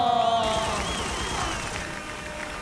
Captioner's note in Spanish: Aplausos